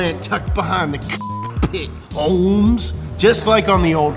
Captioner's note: beep